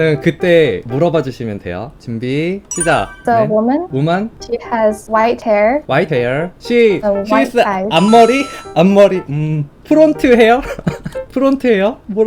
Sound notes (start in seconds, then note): 8.1 Korean